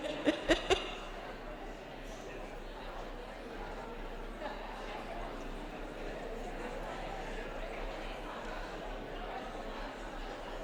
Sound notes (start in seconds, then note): 1.1 audience chattering